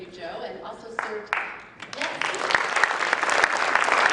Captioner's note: applause